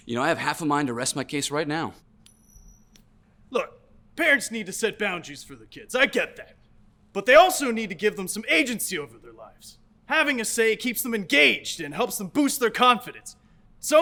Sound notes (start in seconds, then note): 2.2 coin pings